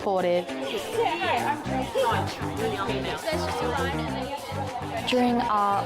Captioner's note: people chattering